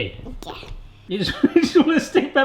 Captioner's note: lauging